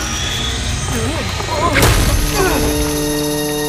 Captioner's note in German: Ängstliche Laute; Angespannte Musik